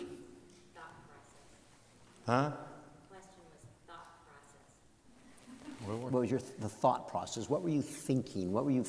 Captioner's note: off mic